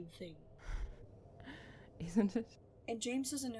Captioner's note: Regulus lets out a breath